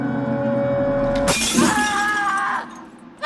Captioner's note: glass breaks